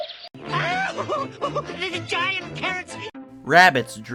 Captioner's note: yells